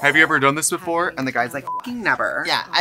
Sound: beep

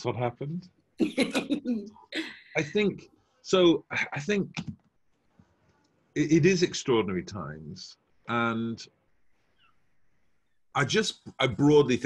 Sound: laughs

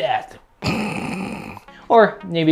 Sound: snores

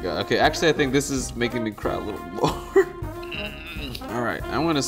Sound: grunts

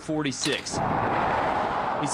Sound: / :nats of cars

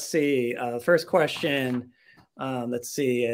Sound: paper shuffling

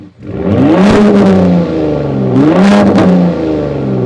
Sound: exhaust roaring

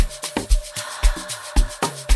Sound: haaah

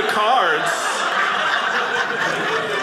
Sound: audience laughing

